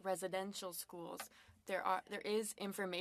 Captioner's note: speaking French